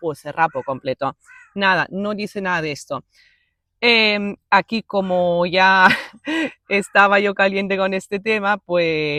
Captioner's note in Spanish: risas